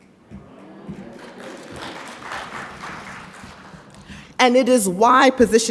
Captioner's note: audience applauds